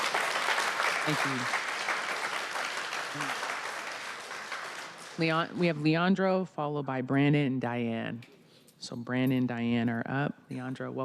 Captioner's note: applause